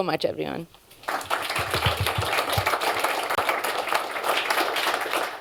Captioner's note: applause